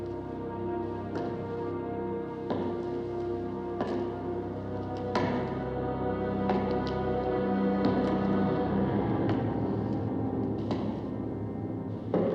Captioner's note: footsteps Continue